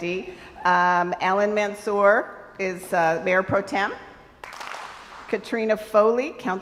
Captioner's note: crowd applauds